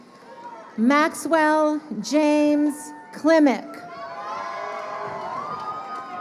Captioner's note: crowd cheering